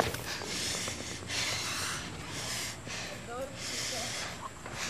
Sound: Ella panting

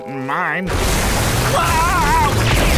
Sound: screaming

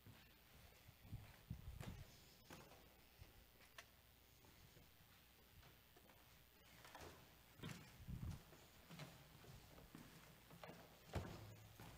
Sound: footsteps

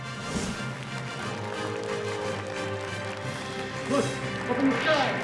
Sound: applause

